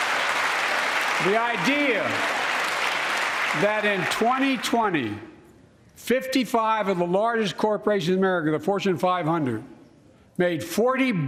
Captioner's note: applause